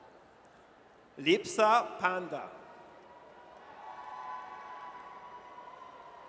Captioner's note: audience cheers